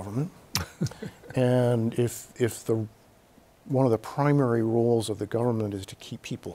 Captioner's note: Bob chuckles